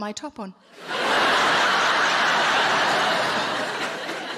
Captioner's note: audience laughing